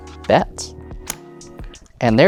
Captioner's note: tokens clatter